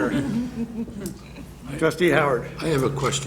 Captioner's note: chuckles